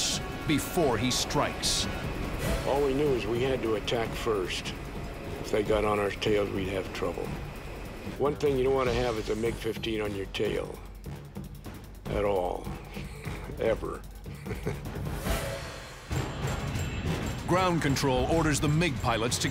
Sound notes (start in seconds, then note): 14.1 laughs